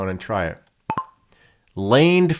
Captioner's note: microphone beeping